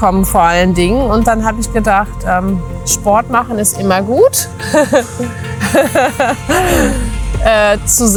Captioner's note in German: gelächter